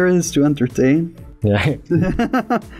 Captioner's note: laughter